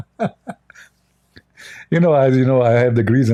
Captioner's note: Ketawa